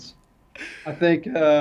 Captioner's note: laugh